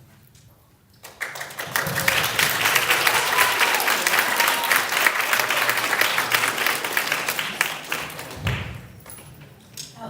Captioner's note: applause